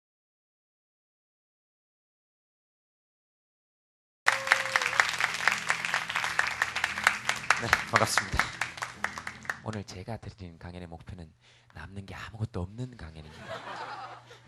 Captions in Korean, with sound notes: (박수) 네, 반갑습니다 오늘 제가 드리는 강연의 목표는 남는 게 아무 것도 없는 강연입니다